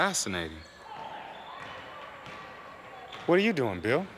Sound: indistinct conversations, shoes squeaking

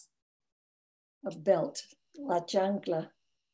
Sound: speaks in foreign language

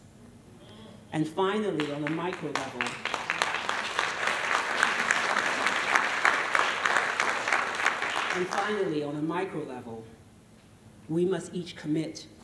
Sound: applause

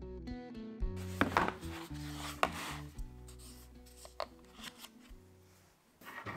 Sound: tool-box being placed on table; table saw running and plywood being cut

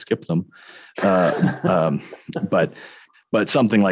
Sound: laughing

